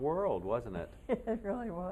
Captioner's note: laughter